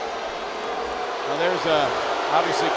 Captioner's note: crowd booing